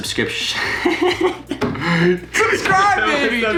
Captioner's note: laughing